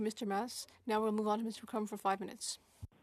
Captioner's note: speaking FRENCH